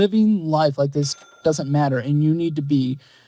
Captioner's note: cash register chimes